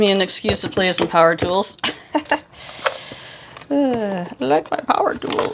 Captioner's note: laughs